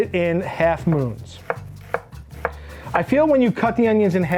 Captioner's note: knife thudding